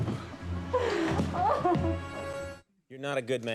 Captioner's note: woman sobbing